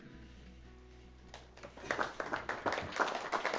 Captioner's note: audience applause